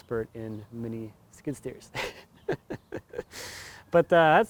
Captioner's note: laughs